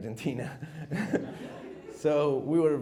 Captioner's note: chuckles